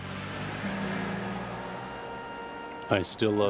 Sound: car engine humming

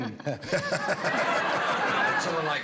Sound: laughter

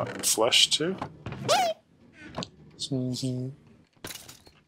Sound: squeak

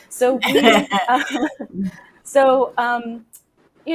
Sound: laughs

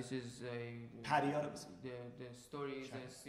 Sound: speaking in farsi

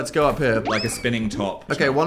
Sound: whimsical sound effect

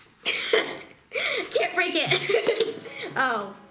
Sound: laughing

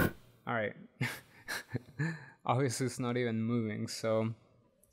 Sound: laughs

